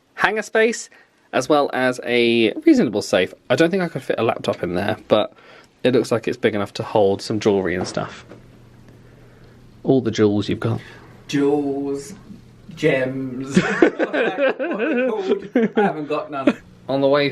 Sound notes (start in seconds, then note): 13.5 laughs